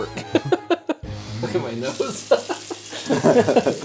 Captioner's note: laughter